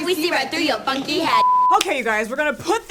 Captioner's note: beep